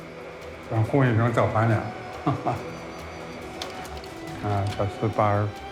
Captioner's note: hablan un idioma extranjero